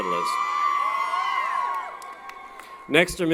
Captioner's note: applause & Cheering